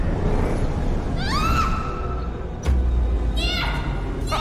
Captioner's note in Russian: крик